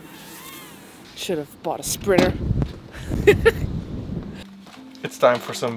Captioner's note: laughs